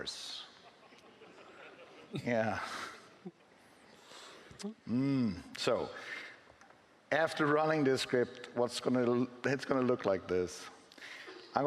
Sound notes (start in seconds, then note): 0.6 laughing